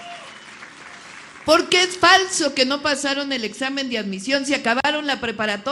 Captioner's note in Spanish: aplausos